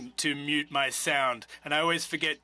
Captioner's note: speaking French